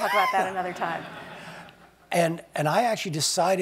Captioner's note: laugh